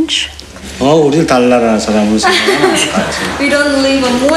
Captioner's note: foreign Language